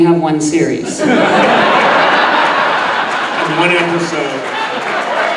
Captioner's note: audience laughing